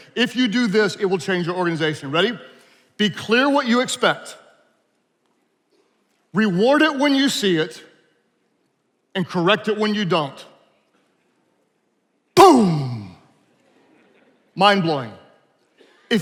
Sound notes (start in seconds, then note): 13.7 attendees laughing